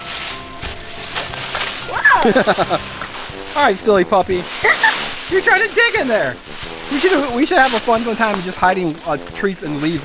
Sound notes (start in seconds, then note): 2.1 laughing; 4.6 assistant giggles